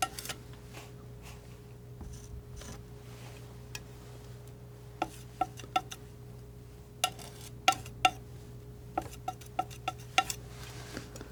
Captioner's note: tapping